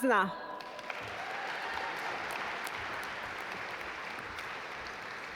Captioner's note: audience applaud